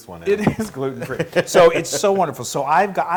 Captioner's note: laugh